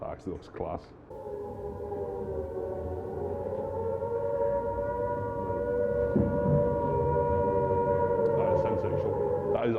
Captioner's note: air raid sirens